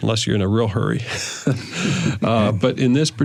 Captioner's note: laughter